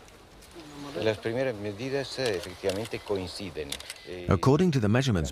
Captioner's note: Spanish spoken audio